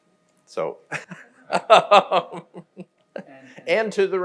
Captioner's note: laughs